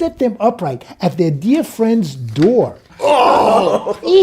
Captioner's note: laughs